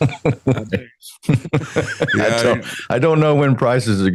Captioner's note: laughing